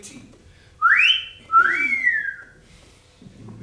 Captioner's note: catcall